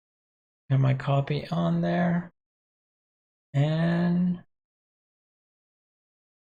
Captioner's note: murmurs